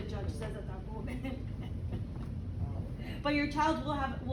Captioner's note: woman laughs